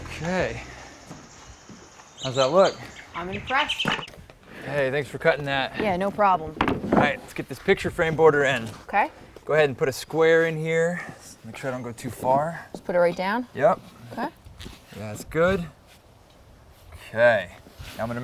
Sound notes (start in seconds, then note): 1.1 board drops on ground